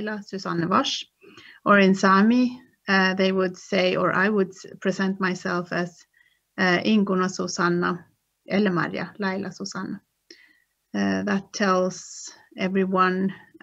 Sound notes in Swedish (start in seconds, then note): 7.8 speaks Sámi